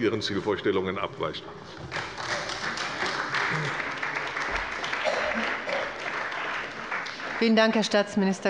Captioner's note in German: Beifall bei der CDU und dem BÜNDNIS 90/DIE GRÜNEN